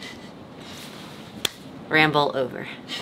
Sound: hand clasping

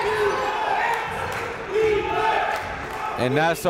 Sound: crowd

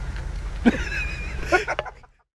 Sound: laughs

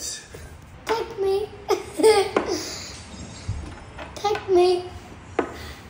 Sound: giggles; chess piece clatters; chess piece clatters

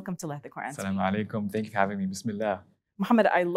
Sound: speaks Arabic

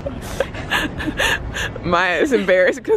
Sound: laughs

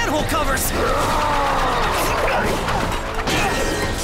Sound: roars; groans

